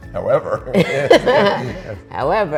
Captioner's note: laughing